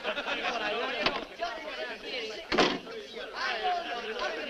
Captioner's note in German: Tür öffnet sich, schließt sich